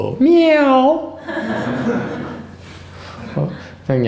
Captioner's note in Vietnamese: laughter